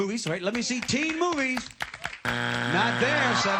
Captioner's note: buzzer